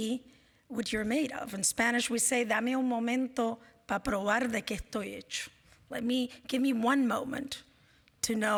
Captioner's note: spanish